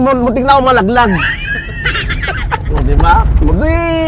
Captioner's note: laughs